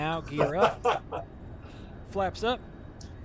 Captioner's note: laughter